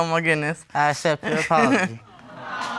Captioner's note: chuckles